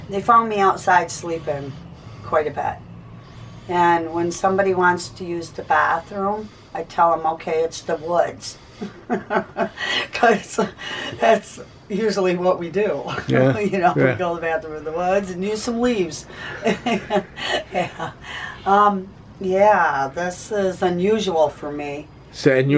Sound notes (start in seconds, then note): 8.7 laughing; 16.2 laughing